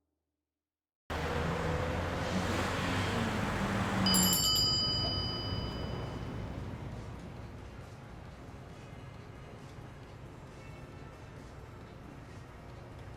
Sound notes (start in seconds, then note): 1.1 traffic droning; 4.0 bell jingling; 6.6 upbeat background music